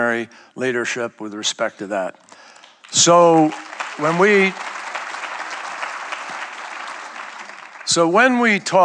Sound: applause

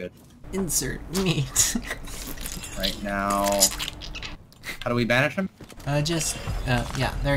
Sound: laughs and makes squishy noises

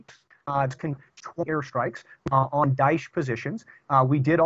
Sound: audio corruption

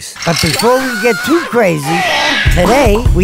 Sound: screams

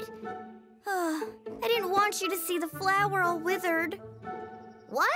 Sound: sighs

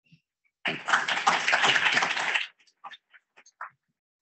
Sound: people clapping

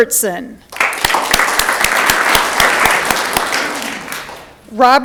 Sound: audience clapping

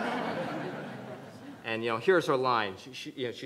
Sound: everyone laughs

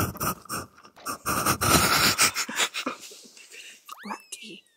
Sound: laughing; burst out in laughter

